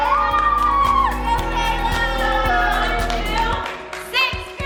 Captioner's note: family cheering